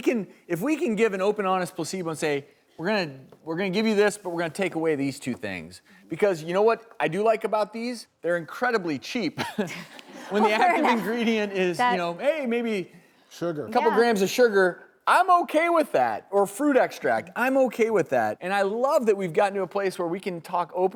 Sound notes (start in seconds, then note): 9.4 laughs; 9.6 audience laughing